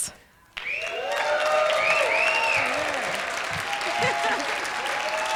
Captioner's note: applause